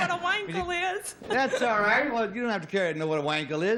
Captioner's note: laughs